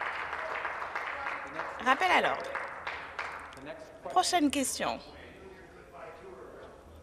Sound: applause

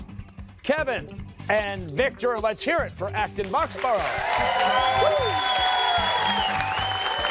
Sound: cheers and applause

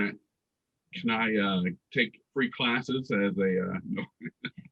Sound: laughs

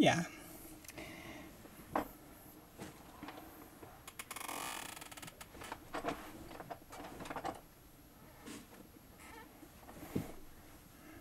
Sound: chair creaking, movement, breathing

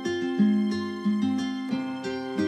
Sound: none

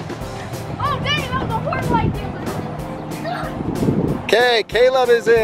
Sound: boy yelling indistinctly

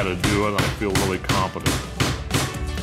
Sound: hammering

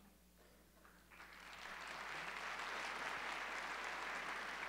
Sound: audience applauding

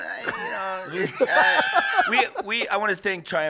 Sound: laughs

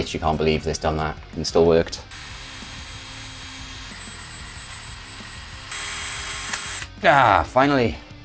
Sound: sound of further drilling

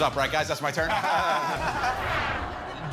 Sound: laughter

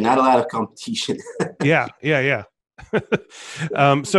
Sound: laughs

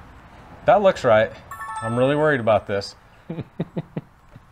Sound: positive ding; laughs

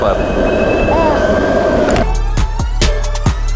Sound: sighing in disgust; upbeat hip hop music

